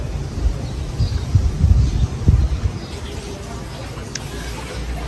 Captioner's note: birds chirping